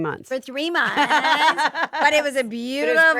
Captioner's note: Stephanie laughing